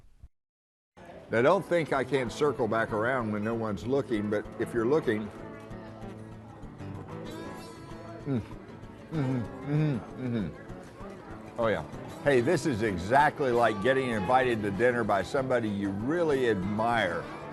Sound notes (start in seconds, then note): 8.3 hums